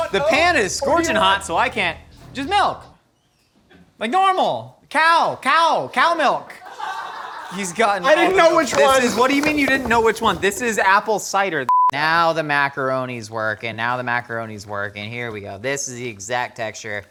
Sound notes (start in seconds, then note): 6.6 laughing